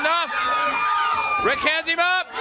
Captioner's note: crowd cheering